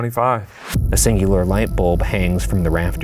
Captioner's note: light bulb buzzing